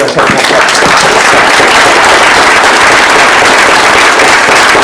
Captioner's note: applause